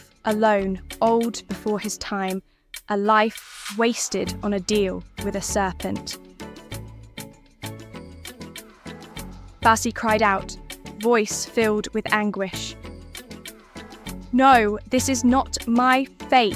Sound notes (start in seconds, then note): 8.8 Basi cried out, voice filled with anguish